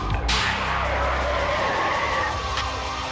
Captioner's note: tires screech